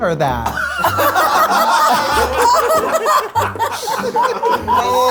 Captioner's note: all laugh